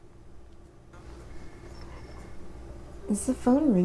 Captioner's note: phone ringing